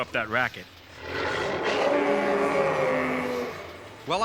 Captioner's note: roaring